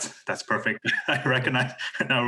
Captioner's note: laughs